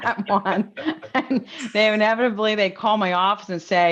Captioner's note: laughs